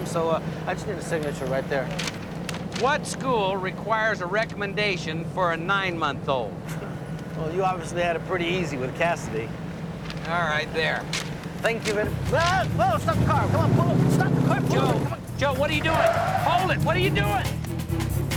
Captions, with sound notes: to waste your time, so I just need a signature right there. What school requires a recommendation for a nine- month-old? Well, you obviously had it pretty easy with Cassidy. All right, there. Thank you very-- Whoa, whoa! Stop the car! Come on, pull over! Stop the car! Pull over! (tires screech) Joe, Joe, what are you doing? Hold it! What are you doing?!